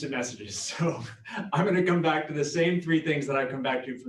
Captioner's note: laughs